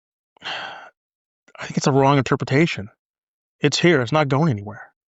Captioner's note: sighs